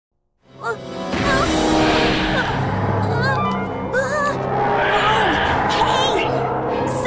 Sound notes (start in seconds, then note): 1.0 groaning/Crying